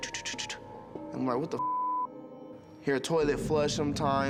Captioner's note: beeps